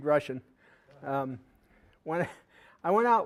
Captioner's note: audience chuckling